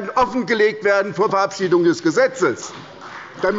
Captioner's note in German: Beifall bei der SPD